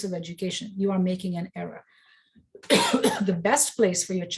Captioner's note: coughs